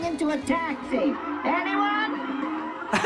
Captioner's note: high-pitched ringing; laughing